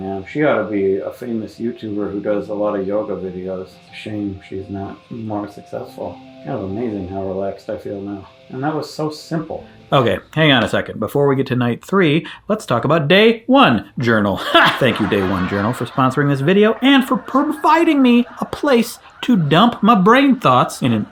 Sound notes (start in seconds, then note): 14.4 scoffs; 15.4 audience laughing